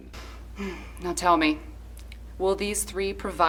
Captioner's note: sighs